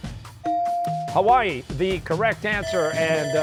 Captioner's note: bell ringing